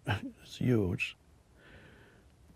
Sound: chuckles

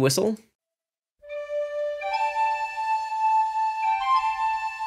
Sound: whistle blows

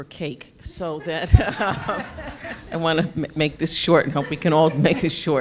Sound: laugh

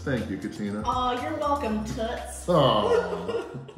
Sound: laughing

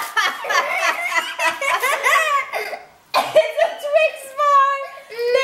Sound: laughing

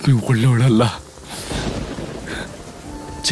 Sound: thundering

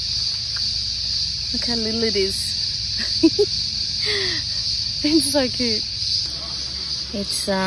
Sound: chuckles

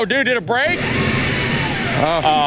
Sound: engine whirring

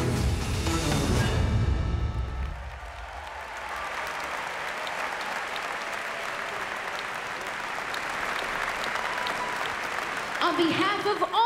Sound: applause

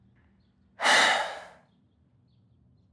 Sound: sighs

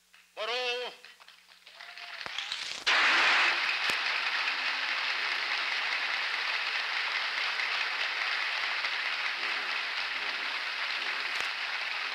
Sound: applause

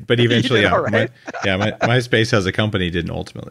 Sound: laughs

